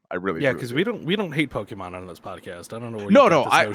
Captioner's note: laughs